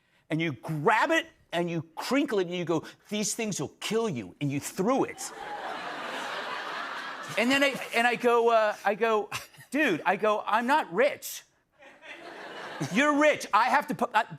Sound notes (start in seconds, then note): 5.2 laughter; 11.8 laughter